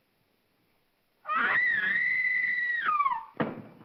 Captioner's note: Ann screams; thump